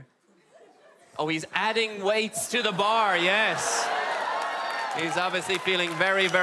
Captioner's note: whoops and cheers from the audienc